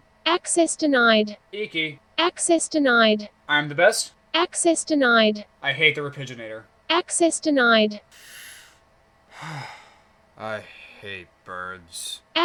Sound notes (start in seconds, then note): 9.3 Pidgy sighing